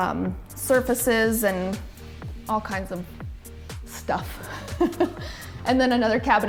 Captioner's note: laughs